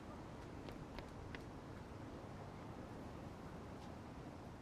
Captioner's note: footsteps pattering